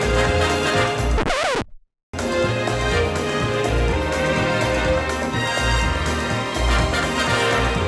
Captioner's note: record scratches; upbeat music